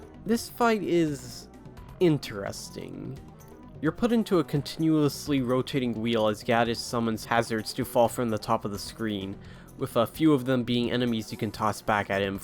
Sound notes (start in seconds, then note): none